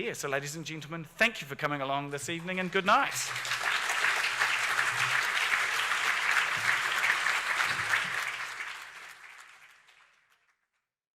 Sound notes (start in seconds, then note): 2.3 audience clapping